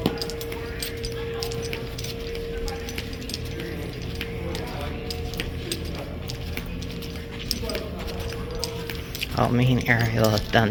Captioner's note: footsteps